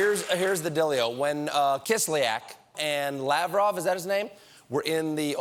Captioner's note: applause